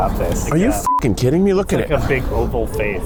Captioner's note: beep